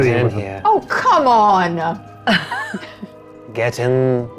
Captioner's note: chuckling